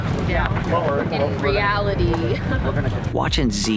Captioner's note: chuckles